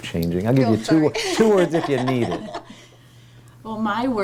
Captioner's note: laughing